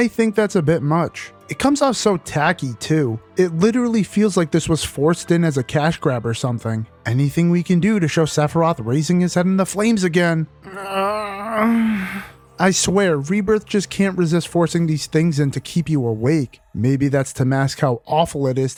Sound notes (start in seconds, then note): 10.6 groan